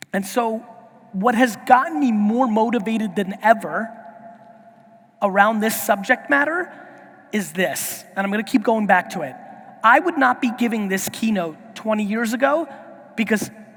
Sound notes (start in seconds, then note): none